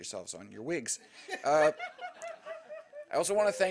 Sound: laughter

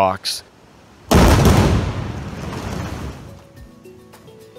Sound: explosion booming

